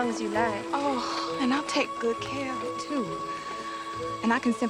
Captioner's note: gasps